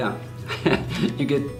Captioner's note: laughs